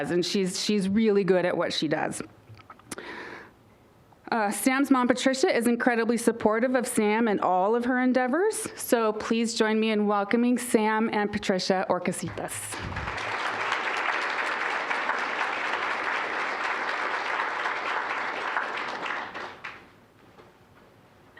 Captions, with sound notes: She's really good at what she does. Sam's mom, Patricia, is incredibly supportive of Sam and all of her endeavors, so please join me in welcoming Sam and Patricia Orcasitas. (applause)